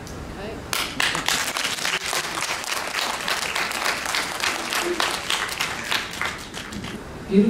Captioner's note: applause